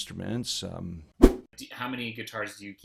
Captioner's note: whoosh